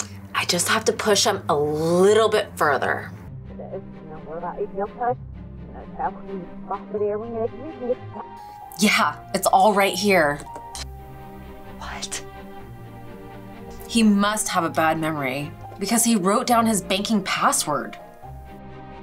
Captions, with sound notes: I just have to push him a little bit further. (Talking in next room) Yeah, it's all right here. He must have a bad memory because he wrote down his banking password.